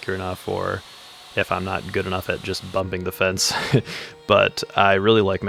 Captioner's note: laughs